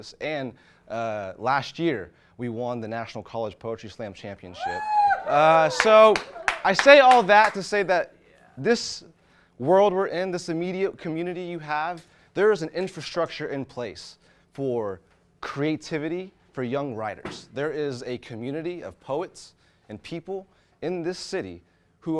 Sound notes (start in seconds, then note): 4.6 audience cheers